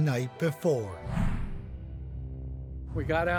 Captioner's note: suspenseful music; air whooshing